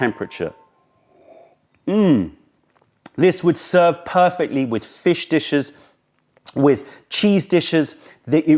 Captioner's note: sips tea